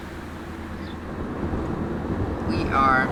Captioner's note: engine humming